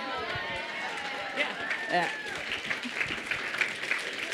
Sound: applause

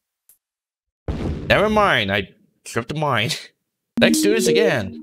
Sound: Minesweeper explosion sound

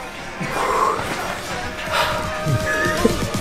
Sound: exhales

